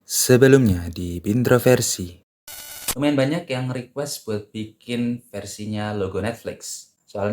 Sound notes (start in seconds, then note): 2.5 interference sound